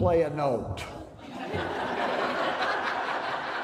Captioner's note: laughter